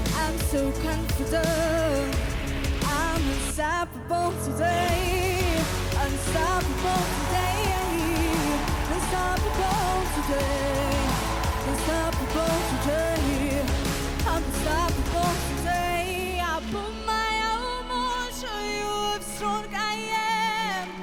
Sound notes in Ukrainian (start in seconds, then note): 7.7 оплески